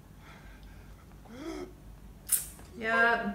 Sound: softly gasps

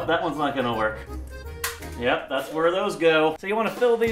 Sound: eggshell hits the floor behind them

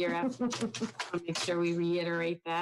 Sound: chuckles

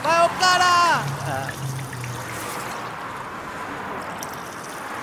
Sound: urine trickling

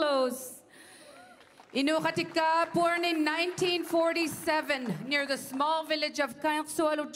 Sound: speaking Indigenous LANGUAGE

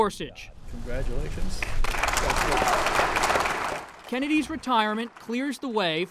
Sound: applause

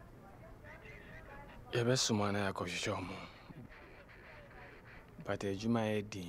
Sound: in Twi

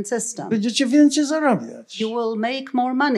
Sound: foreign language

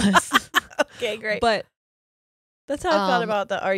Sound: laughs

